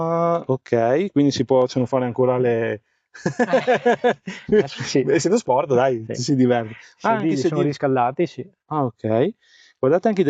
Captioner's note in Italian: risate